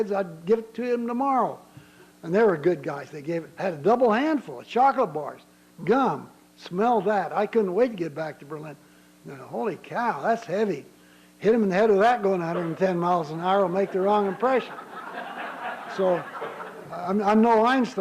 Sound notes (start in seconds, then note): 13.6 laughter